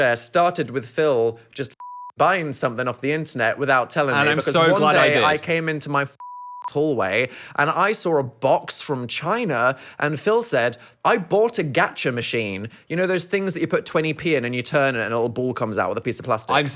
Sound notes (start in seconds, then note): 6.2 beep